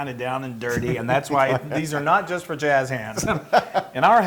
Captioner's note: laugh